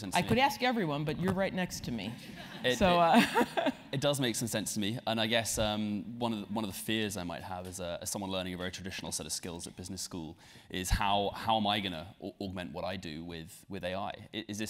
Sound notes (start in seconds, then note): 3.0 laugh